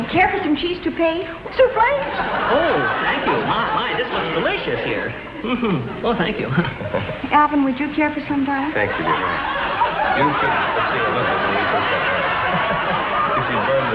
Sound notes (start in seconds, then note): 1.6 audience continues laughing